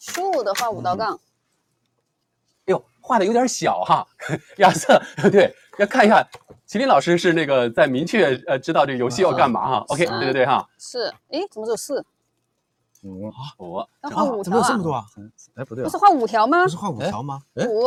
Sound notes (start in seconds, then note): 4.2 laughs